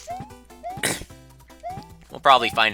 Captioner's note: clears throat